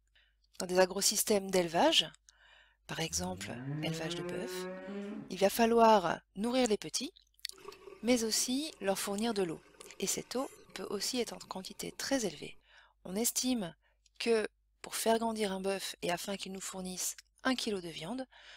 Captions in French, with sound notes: Dans des agrosystèmes d'élevage par exemple l'élevage de bœuf [meuglement], il va falloir nourrir les petits mais aussi leur fournir de l'eau [bruit d'eau qui coule] et cette eau peut aussi être en quantité très élevée ; on estime que pour faire grandir un bœuf et afin qu'il nous fournisse un kilo de viande,